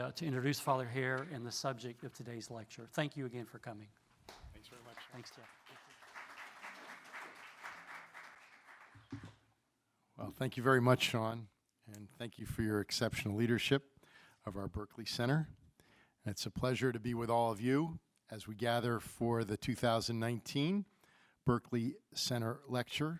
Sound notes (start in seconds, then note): 6.7 audience applauds